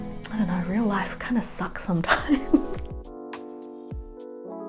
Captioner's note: laughs; calm music